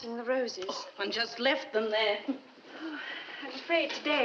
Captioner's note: chuckles